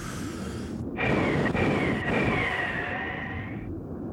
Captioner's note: wind blowing